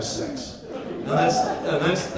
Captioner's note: audience laughs